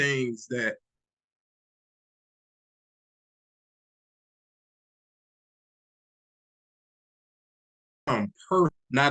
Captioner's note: pause in sound